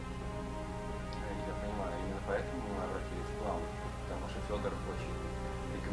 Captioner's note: man speaking in Russian